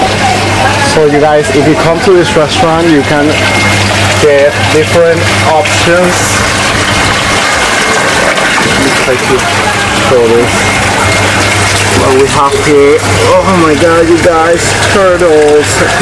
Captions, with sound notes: so you guys if you come to this restaurant, you can - they have different options (water runs loudly) Oh my God you guys - turtles!